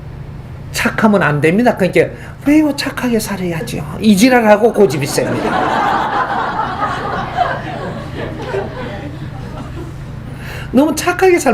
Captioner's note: audience laughs